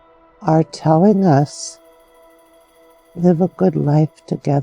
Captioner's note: insects chirping distantly